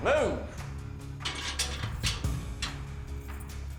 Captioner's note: unlocking cell door